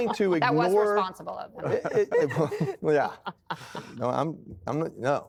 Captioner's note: laughter